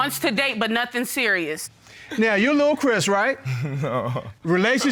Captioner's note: chuckles